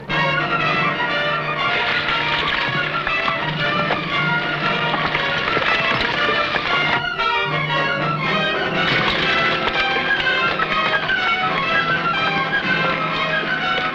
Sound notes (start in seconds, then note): 1.8 horse hooves pattering